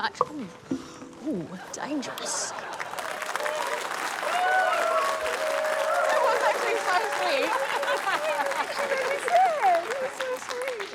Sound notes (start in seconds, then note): 3.5 cheering, applause